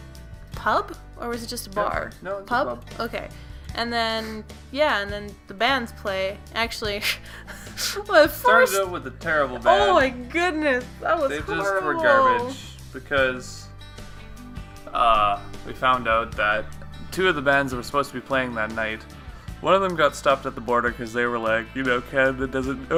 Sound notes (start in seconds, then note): 7.0 hyperventilates